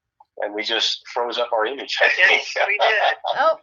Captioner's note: laughs